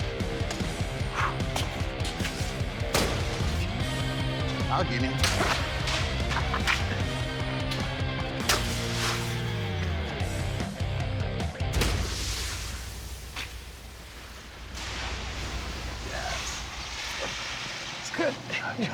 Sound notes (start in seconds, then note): 5.1 slashing; 11.8 sand spilling